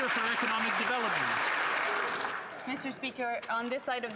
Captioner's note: some Applause